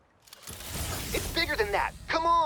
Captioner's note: portal opening